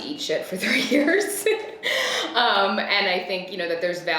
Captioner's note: laughs